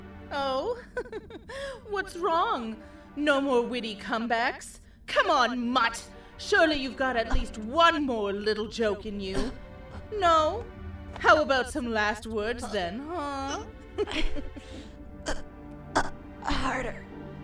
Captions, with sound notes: oh? *Confident laugh* what's wrong? no more witty comebacks? come on mutt! surely you've got at least one more little joke in you. No? How about some Last Words then huh? *Laughs* *Groans and struggles to breath* Harder